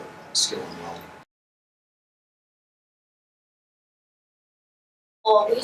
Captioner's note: silence